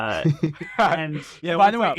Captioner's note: group laughing